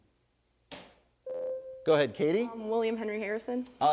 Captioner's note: ding